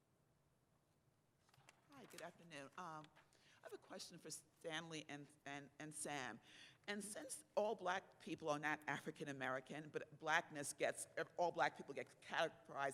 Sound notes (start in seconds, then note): 1.8 voiceover